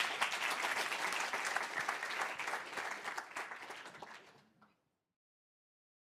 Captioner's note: applause